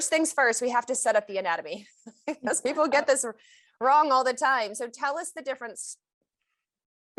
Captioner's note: laughs